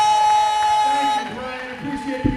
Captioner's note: applause